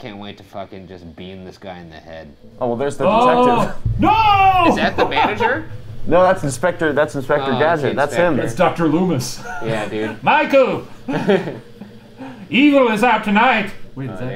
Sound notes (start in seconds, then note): 4.6 laughs